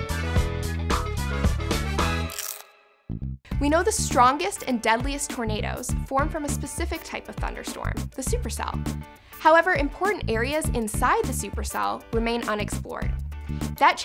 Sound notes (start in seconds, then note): 0.0 upbeat Music; 2.2 crunch sound